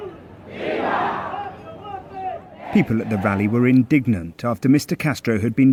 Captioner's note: crowd chanting